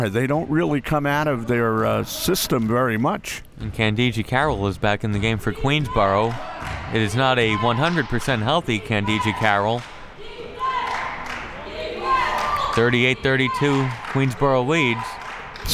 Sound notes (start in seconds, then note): 10.2 cheering